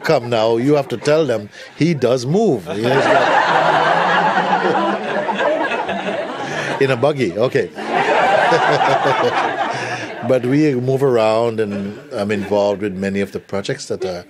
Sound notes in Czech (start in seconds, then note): 2.6 smích